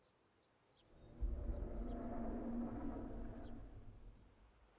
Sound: dinosaur growls

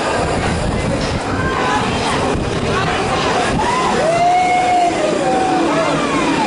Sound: Cheering in the bachground saying "Good job Ida!"

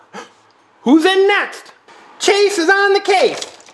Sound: gasps

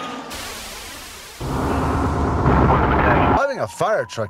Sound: siren wailing; truck engine revving; wind whooshing

